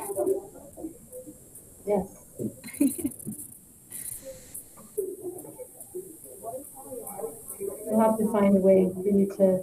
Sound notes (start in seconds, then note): 2.6 laughs